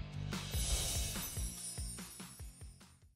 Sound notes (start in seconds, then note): 0.6 chimes ringing